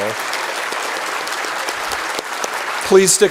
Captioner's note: applause